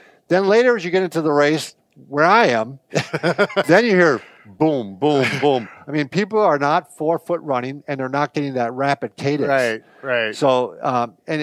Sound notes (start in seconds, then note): 2.9 laughs